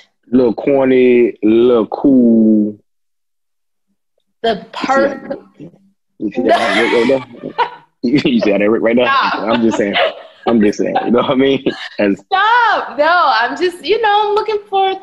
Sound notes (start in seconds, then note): 8.0 laughing